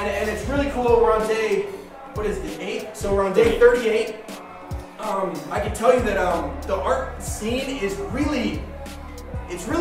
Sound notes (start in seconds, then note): 3.6 voiceover